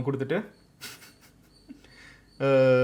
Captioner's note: laughs